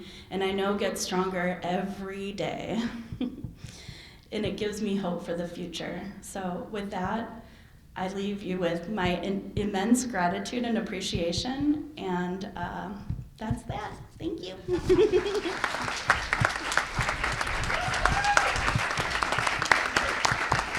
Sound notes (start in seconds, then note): 14.6 chuckles; 14.8 applause